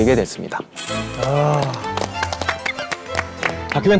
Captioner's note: applause